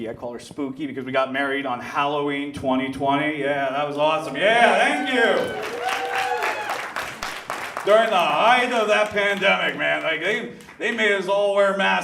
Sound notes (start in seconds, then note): 4.2 audience claps and cheers